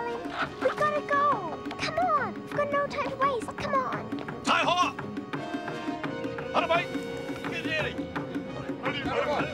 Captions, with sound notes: - We've got to go. - Come on. We've got no time to waste. Come on. [NON-ENGLISH SPEECH]